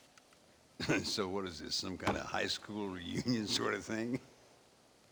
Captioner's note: laughing